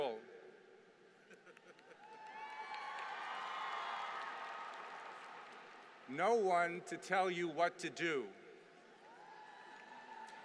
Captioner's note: applause